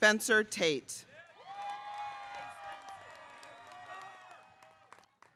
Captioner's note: audience cheering